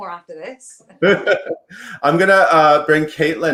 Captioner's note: laughs